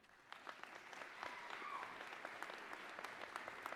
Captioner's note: applause